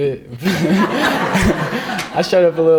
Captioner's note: all laughing